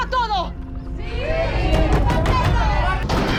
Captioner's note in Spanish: Golpes en la puerta; Toques en la puerta